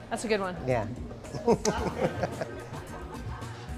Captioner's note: laughs